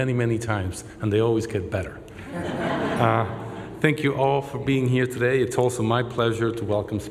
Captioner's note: laughter